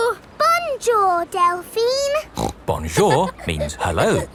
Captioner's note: snorts